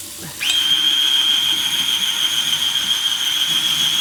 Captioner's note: water running; machine whirring